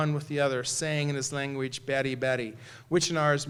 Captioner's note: non-english